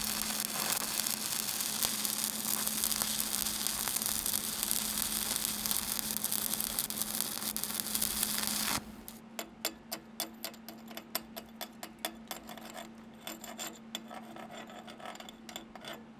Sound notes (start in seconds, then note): 9.3 metal clanking